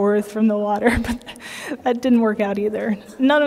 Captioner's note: laughter